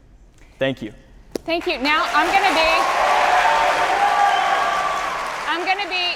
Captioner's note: audience applauding